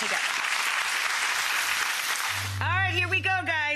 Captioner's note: audience clapping